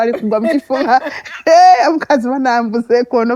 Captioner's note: all laughing